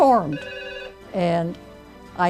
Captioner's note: phone rings